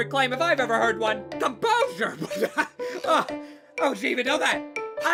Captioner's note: laughs uncomposurely